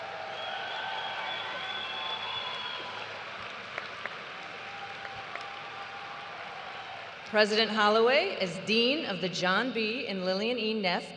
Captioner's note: cheers and applause